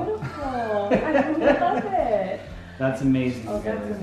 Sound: chuckles

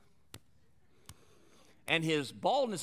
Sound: soft slapping

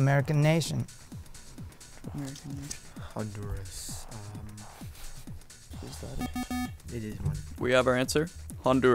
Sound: wispering

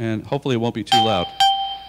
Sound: ding Ding

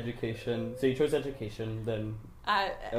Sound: laughs

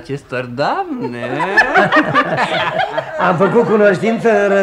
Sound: everyone laughs

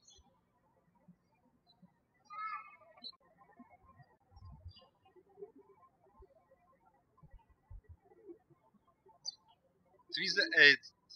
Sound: birds chirping

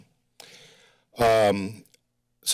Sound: breaths deeply

